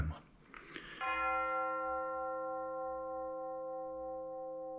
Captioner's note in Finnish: kirkonkellon ääni